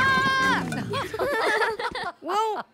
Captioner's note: all laugh